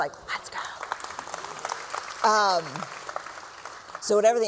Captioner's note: applause